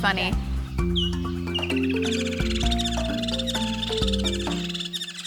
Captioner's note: birds trilling